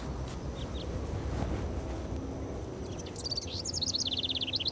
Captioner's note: birds singing